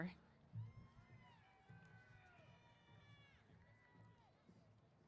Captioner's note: cheers